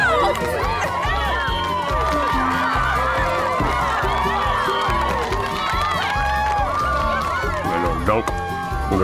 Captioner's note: cheering